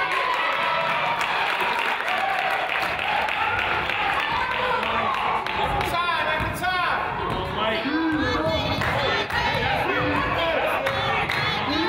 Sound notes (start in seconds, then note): 0.0 crowd applauds and cheers; 9.2 claps; 10.7 claps